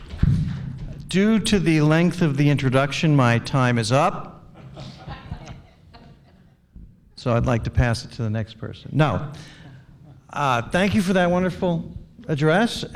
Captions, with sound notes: Due to the length of the introduction, my time is up. (laughter) So I'd like to pass it to the next person, no. Thank you for that wonderful address